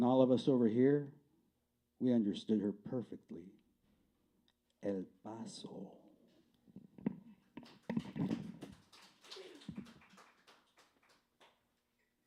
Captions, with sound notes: All of us over here, we understood her perfectly. El Paso." [CLAPPING]